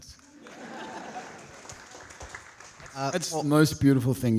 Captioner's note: audience laughing